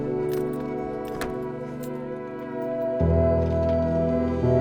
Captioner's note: truck Door Opens